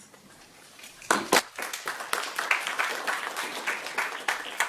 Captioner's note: audience clapping